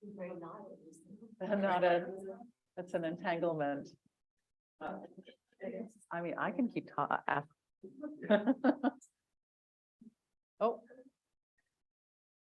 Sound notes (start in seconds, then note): 8.2 laughs